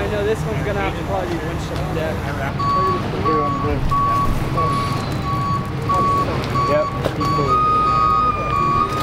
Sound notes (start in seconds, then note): 2.2 background chatter; 2.3 tow truck beeps